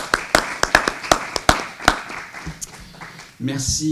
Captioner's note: applause